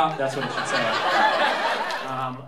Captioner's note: laughter